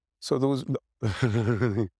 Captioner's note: laughs